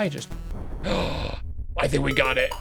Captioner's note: gasps